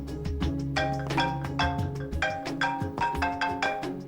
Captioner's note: phone rings